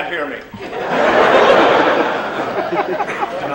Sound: laughter

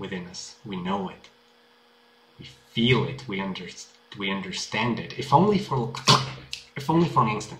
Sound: snap

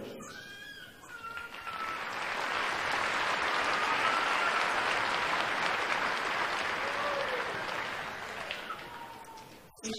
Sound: applause

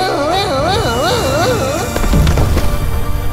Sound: exclaiming

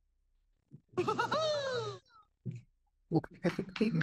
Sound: laughing

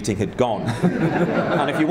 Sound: laughing

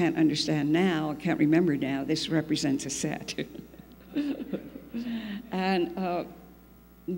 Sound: laughs

